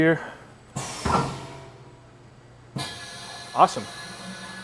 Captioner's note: machine hissing